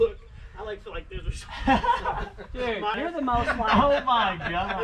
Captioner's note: all chattering quietly